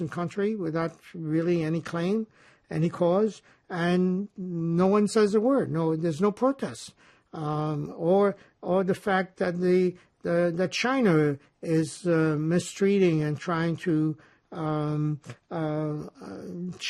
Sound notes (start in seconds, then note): none